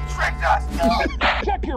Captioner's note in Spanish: Coach se ríe